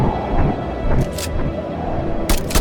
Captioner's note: gun clicks; gun blasting